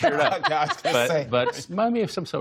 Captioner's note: laughter